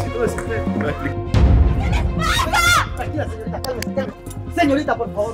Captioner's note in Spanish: Gritos